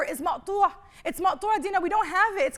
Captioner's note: speaking arabic